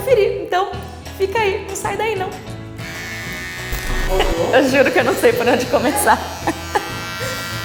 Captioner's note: machine noise; lots of laughter; laughs